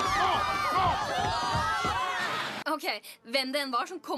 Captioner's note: all screaming